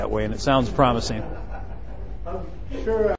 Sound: laughing

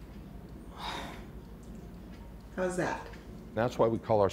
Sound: exhales sharply

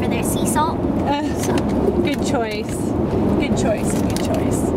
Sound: laughs

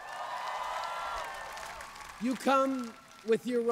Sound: cheers, boos, applause

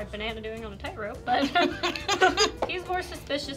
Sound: laughing

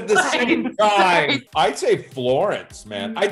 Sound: laughing

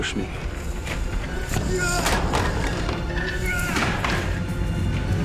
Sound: grunting

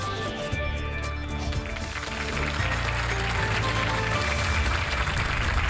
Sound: applause

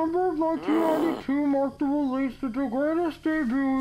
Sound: grumbling

